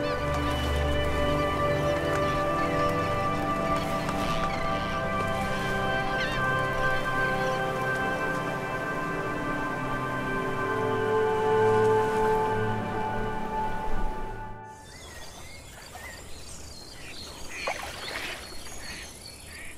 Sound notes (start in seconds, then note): 0.0 birds chirping; 0.1 gentle music; 4.7 birds chirping; 4.7 gentle music; 9.6 birds chirping; 9.6 gentle music; 14.6 birds squawking; 14.6 frogs croaking; 19.4 birds squawking; 19.5 frogs croaking